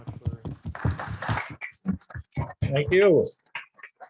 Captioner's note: audience applauds